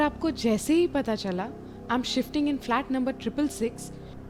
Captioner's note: none